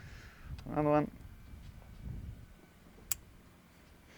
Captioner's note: click